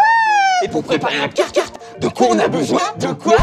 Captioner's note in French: Voix satanique